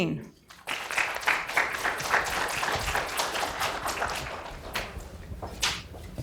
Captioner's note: claps; audience clapping